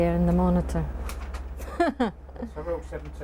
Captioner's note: laughs